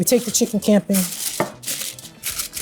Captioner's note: foil rustling